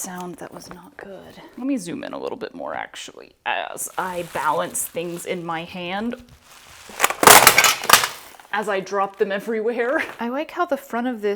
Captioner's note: clattering